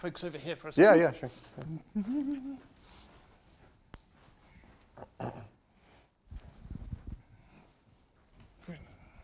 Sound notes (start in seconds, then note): 1.6 professor hums